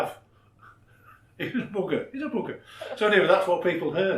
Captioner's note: laughs